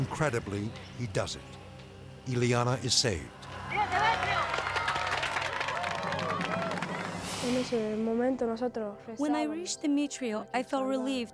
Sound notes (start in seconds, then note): 3.9 speaks foreign language; 5.6 onlookers applauding; 7.1 speaking in foreign language